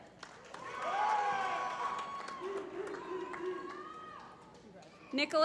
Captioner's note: applause